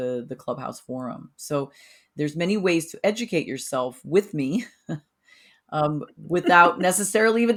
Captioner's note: chuckles